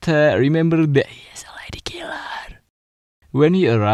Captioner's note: whispering